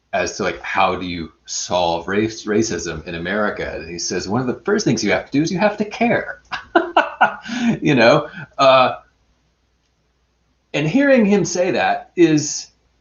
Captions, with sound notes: As to like, how do you solve race racism in America? He says, "One of the first things you have to do is you have to care." (laughs) And hearing him say that,